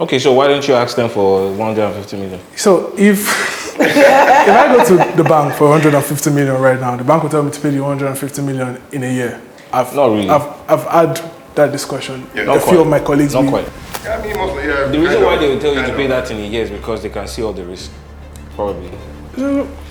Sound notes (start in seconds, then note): 3.6 laughs